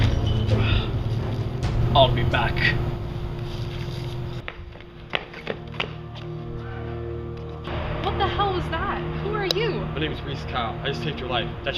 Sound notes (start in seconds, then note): 0.4 Gorn groans; 4.7 running + Heavy breathing